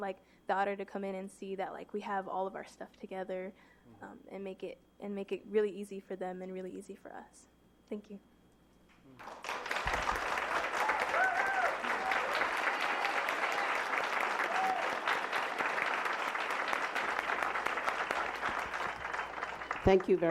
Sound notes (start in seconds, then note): 14.0 applause